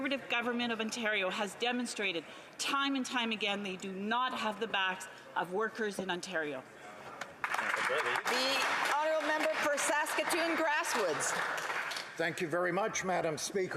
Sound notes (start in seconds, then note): 10.4 some Applause